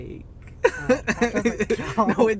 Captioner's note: laughing